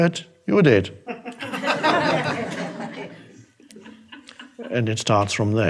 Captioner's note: audience laughing